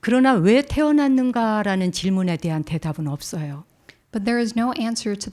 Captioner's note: speaking in Korean